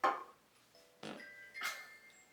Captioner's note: toot 💨